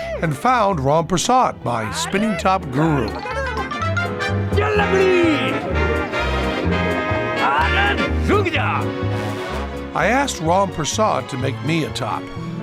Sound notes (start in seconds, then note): 3.0 non-english speech